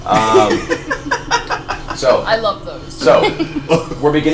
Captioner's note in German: Gelächter